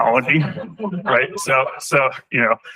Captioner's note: laughter